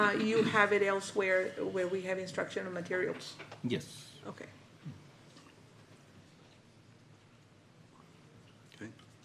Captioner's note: clears throat